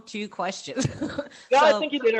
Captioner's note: laughs